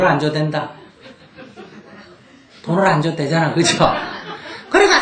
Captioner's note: audience Laughter